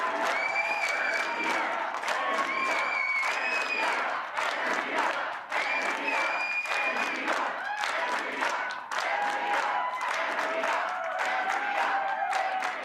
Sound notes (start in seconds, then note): 3.8 cheers and Applause